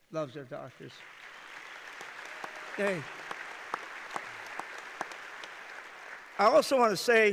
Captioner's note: applause